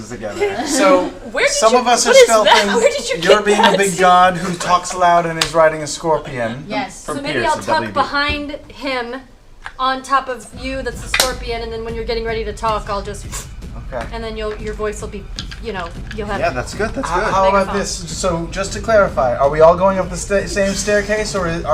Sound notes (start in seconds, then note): 13.2 whoosh